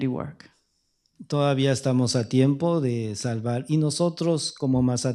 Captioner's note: speaking spanish